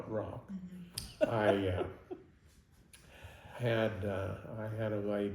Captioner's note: laughing